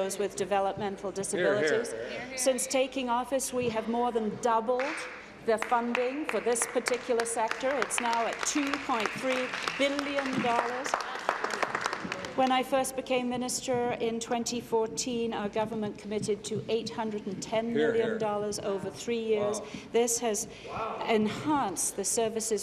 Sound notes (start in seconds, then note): 11.8 applause